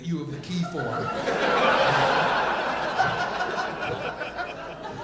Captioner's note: audience laughing